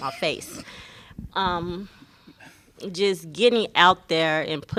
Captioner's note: laughter